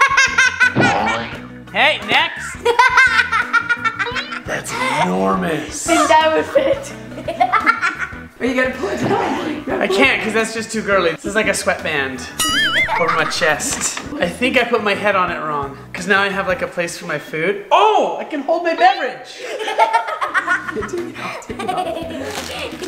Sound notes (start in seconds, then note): 0.0 boy laughing loudly; 2.6 girl laughing loudly; 19.4 kids laughing